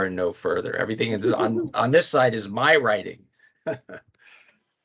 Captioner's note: laughing